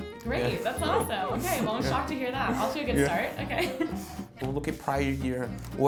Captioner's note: laughing